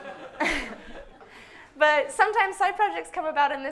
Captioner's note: audience laughs; stifled laughter